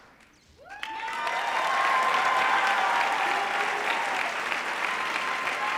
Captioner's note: audience applauding